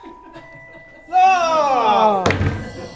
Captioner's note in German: Alle stöhnen